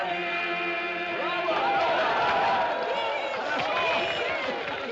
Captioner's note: Aplausos